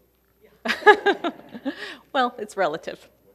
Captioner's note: laughing